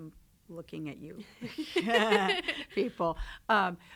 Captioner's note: laughs